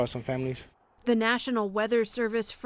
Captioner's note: voice-over